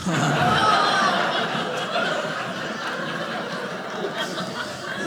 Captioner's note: audience laughing